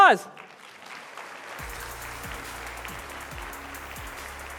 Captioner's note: applause